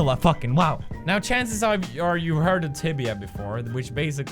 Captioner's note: stuttering